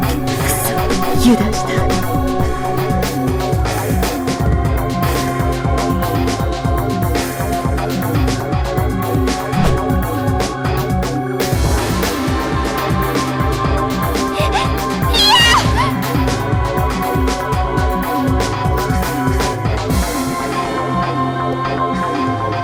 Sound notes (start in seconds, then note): 14.9 screams